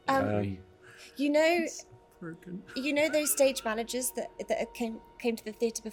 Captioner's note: DM, mutters